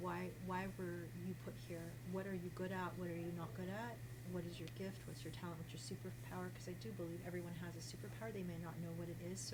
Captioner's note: none